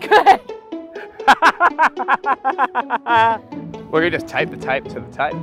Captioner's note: laughs